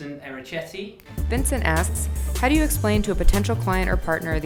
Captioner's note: voiceover